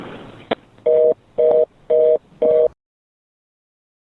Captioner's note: dial tone